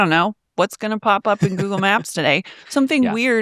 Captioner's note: laughs